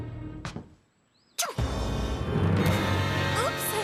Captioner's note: sneeze